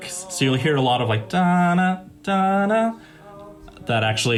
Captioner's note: does musical impression